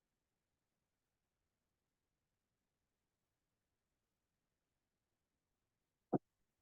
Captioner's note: silence